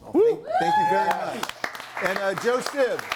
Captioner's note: audience applauds and cheers